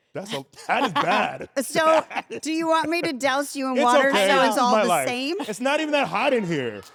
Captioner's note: laugh